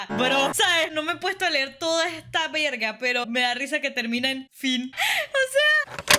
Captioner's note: laugh